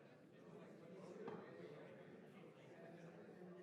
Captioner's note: none